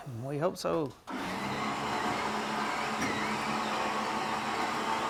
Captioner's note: winch rumbling